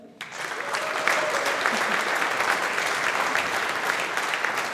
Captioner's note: audience applauding